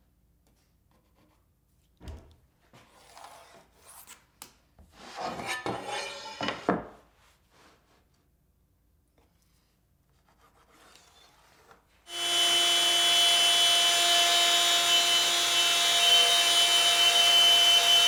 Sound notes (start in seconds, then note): 5.1 metal scraping; 12.0 saw whirring